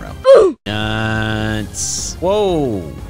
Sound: comedic grunting

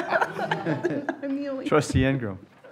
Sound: laughter

